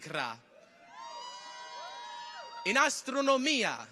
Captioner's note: people cheer